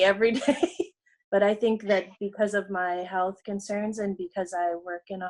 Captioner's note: laughs